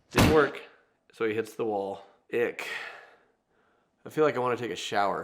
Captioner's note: none